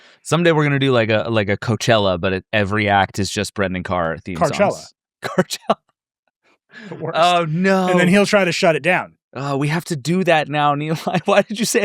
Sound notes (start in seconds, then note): 5.3 chuckles